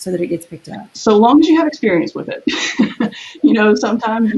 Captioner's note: laughs